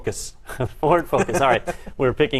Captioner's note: laugh